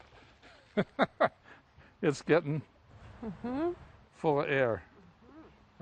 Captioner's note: laughs